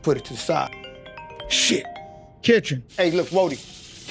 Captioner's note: phone ringing